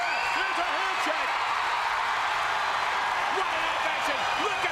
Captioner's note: crowd cheers